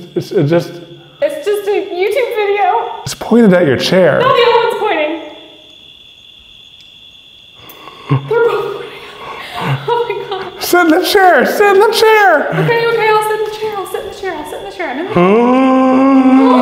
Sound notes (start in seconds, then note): 6.6 crickets chirping; 7.7 chuckles excitedly; 15.2 gasps